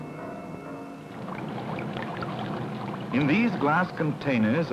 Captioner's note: bubbling sounds